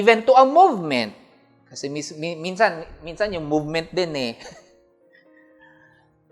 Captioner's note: chuckles